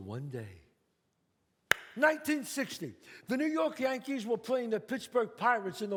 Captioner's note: claps